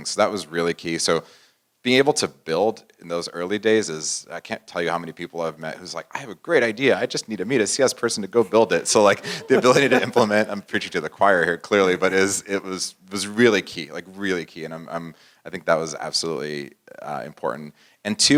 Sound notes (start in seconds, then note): 8.4 laugh